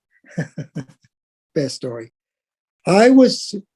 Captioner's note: laugh